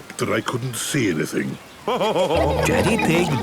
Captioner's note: laughing